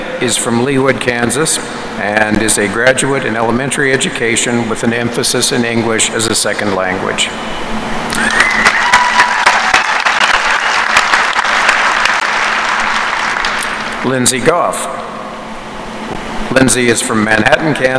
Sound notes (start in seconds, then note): 8.2 applause